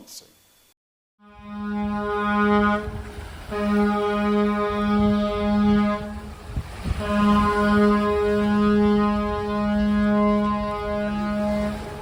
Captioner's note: 3 long blasts of a ship's horn